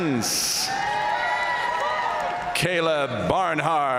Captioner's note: audience cheering and applauding